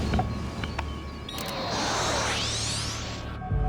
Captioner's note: static crackles; pinging